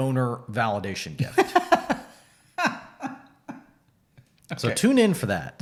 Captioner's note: laughs